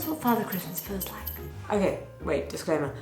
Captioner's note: bells ring